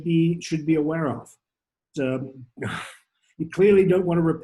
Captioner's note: sighs